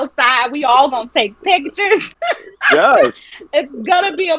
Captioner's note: laughing